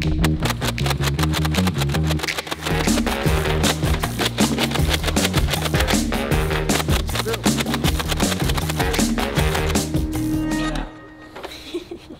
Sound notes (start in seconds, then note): 0.2 gun banging; 3.5 playful music; 6.6 gun banging